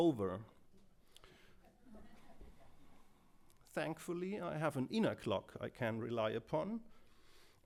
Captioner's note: laughter